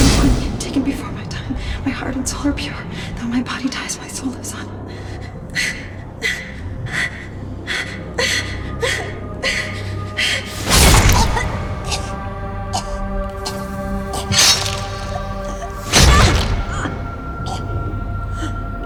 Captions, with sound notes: - I don't want to be taken before my time. My heart and soul are pure. Though my body dies, my soul lives on. (Mindy's Mom panting) (knife slashes) (Mindy's Mom choking) (knife slashes) (Mindy's Mom choking)